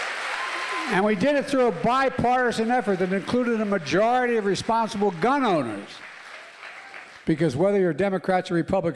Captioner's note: applause